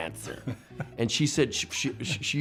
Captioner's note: laughter